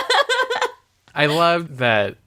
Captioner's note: laughs